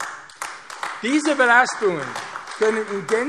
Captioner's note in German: Beifall AfD